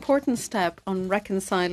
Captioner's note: speaking French